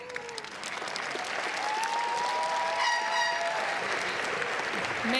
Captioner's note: crowd applauds